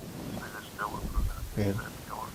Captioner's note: radio chatter